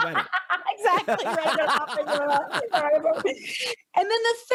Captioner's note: laughs; laughing